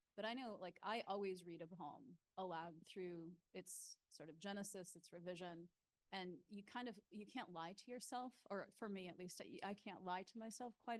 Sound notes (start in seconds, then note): none